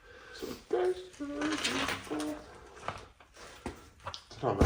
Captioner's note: starts humming the same song again